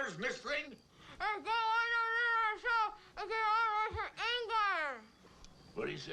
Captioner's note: Zeke mumbling rapidly